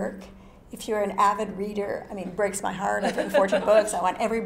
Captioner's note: laugh